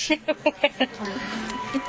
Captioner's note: laughing